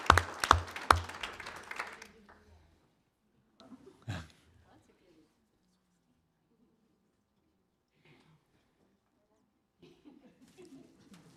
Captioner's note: applause